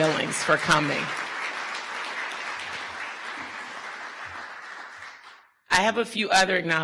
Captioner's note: audience applause